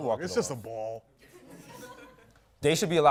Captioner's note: laughter